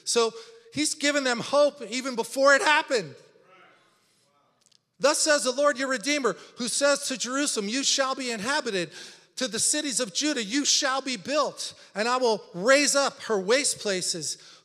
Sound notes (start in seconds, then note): none